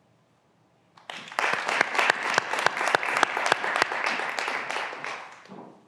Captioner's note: graduands applauding